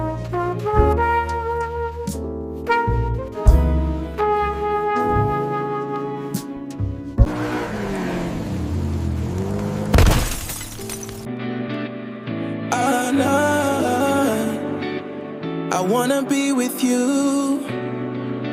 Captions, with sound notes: [car revving] [glass shattering] [gentle music] Oh, no, I wanna be with you